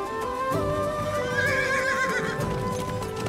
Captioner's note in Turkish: At kişneme sesi